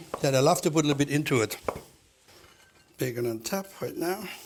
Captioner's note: chopping